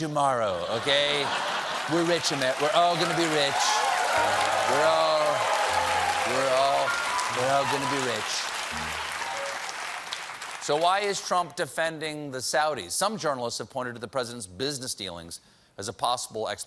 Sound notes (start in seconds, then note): 11.8 applause